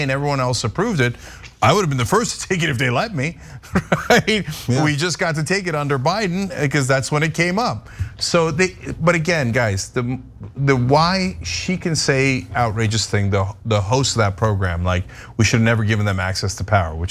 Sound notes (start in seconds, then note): 3.6 laugh